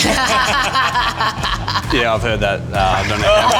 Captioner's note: laughing